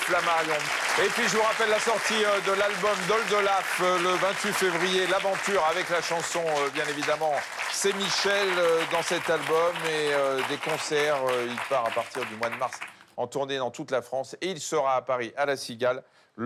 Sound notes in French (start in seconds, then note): 11.7 applaudissements